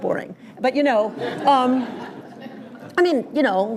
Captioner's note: laughter